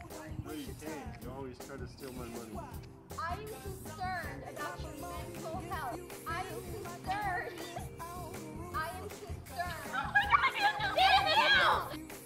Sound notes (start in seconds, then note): 6.4 laughs